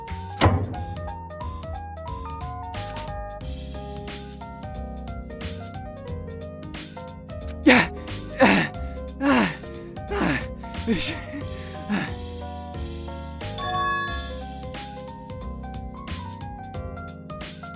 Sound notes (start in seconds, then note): 10.0 huff; 11.6 puff